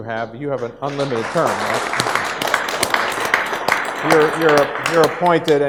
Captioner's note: audience applauds